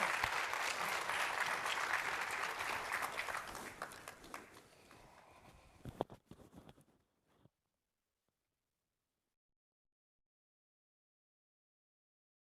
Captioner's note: applause